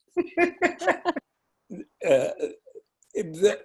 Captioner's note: laughing